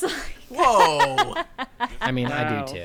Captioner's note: laughing